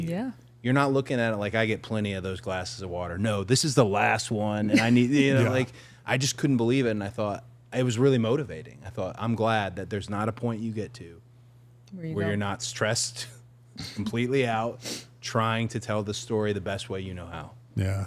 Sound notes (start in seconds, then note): 4.6 participant laughing; 13.4 chuckling